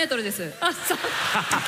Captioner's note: laughter